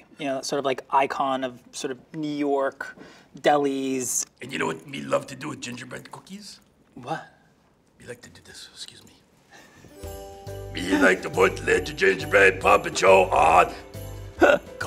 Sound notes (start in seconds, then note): 9.6 bright festive music; 10.8 chuckling